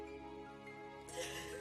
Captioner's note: sobbing